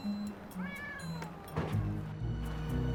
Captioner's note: cats meowing